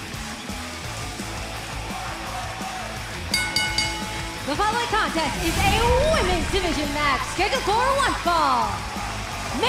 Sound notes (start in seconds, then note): 1.9 crowd cheering; 3.2 bell ringing